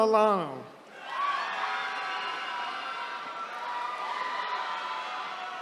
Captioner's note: attendees cheering